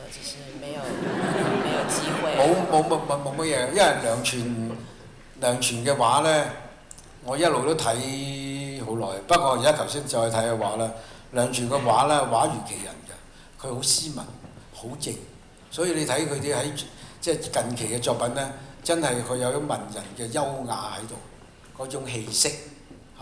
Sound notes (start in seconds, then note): 0.8 laughter; 3.4 Cantonese